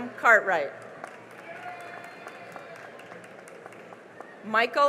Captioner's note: cheering and applause